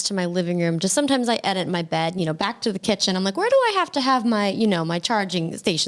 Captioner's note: none